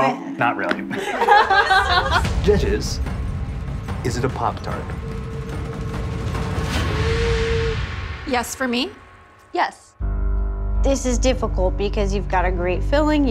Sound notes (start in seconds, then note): 0.9 judges laughing